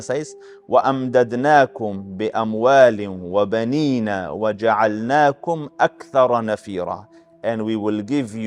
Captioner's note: Arabic